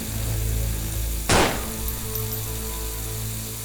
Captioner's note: A gunshot fires